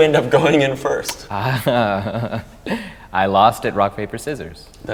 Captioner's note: laughs